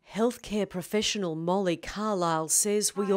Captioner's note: voiceover